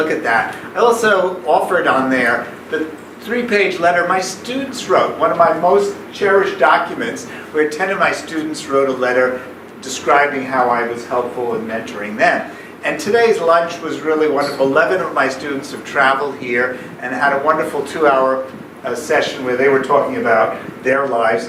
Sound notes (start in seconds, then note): none